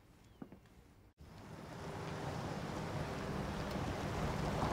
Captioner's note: vehicle approaching